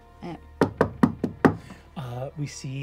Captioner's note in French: frappe à la porte